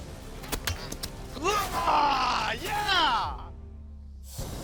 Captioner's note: roars